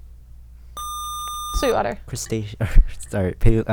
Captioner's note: buzzer